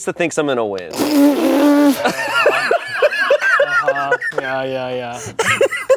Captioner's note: everyone laughs